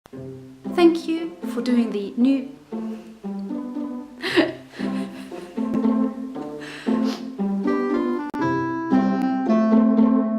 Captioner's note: laughing